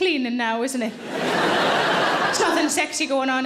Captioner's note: audience laughing